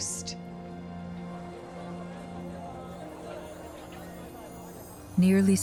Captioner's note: people chattering